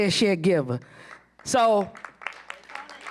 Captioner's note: applause